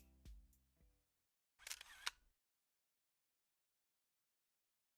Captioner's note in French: bruit de flash d'une caméra